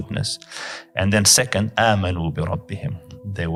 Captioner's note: Arabic